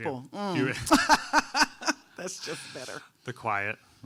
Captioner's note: laughs